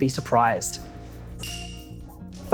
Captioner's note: bell rings